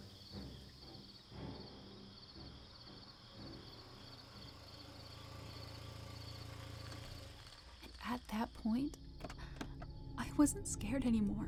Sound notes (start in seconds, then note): 3.7 car engine rumbling